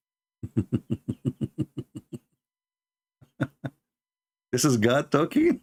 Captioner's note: Ketawa